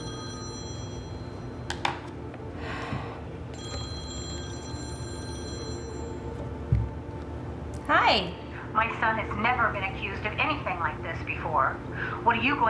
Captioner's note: phone rings